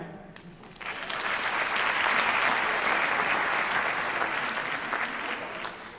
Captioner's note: applause